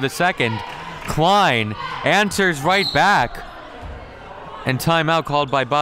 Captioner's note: referee blows whistle